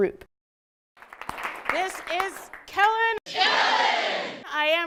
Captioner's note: clapping